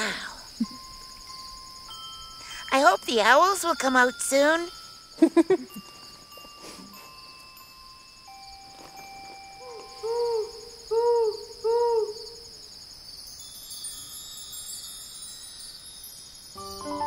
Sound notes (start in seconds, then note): 1.0 gentle music; 5.2 laughing; 7.2 gentle music continues; 9.6 owl hooting; 13.2 chimes ringing; 16.8 gentle music